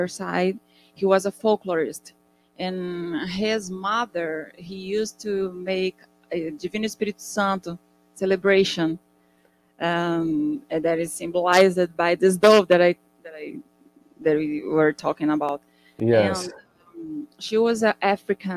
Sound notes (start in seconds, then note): 6.9 speaking in Portuguese